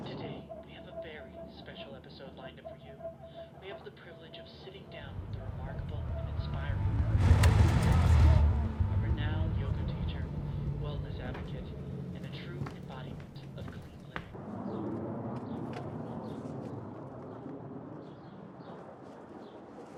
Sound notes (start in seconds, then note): 7.3 car engine rumbling; 14.7 airplane droning; 14.7 birds chirping